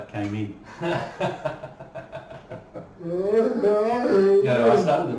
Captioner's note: laughing